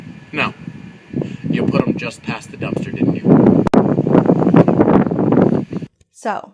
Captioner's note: wind muffles audio